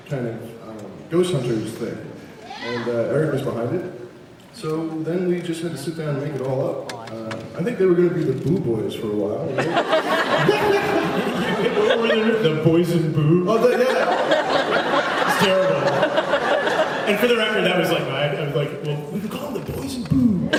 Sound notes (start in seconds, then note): 9.5 laughs; 13.6 laughs